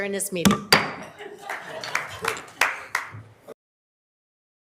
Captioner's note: gavel thumps